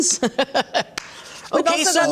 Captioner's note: laughs